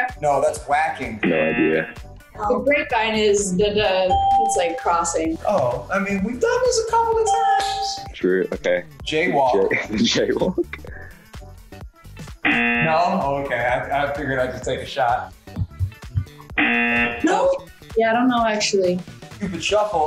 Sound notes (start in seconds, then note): 4.1 ding; 7.2 ding; 9.5 chuckles; 12.4 buzzer; 16.6 buzzer